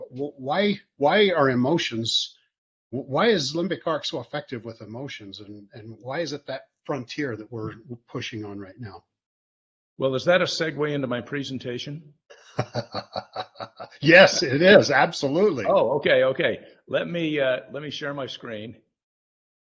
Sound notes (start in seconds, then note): 12.4 laughs